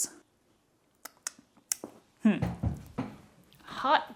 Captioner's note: light smacking